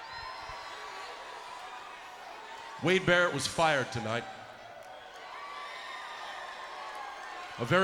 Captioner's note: applause